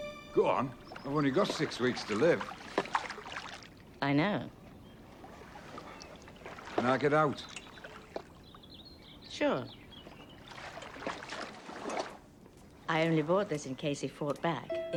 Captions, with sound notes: Go on. I've only got six weeks to live. - I know. (water splashing) - Can I get out. - Sure. (water splashing) I only brought this in case he fought back.